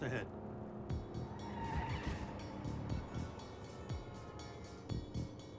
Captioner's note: tires squeal